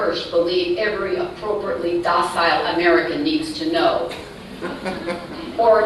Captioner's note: laughter